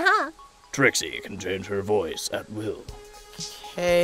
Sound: deep voice

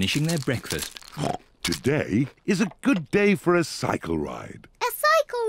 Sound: snorts

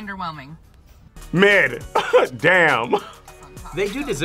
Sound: laughs

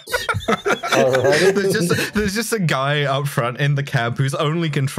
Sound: laughter

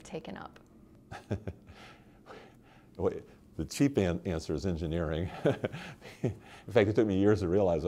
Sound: laughter

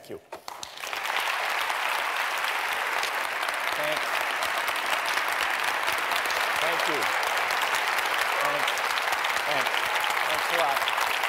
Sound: clapping

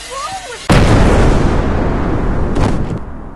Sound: boom

